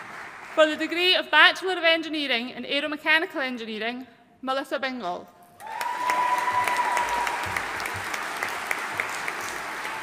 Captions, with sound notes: For the degree of Bachelor of Enginee in Aero-Mechanical Engineering, Melissa Bingol. (AUDIENCE CHEERING AND APPLAUDING)